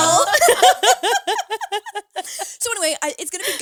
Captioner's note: all laughing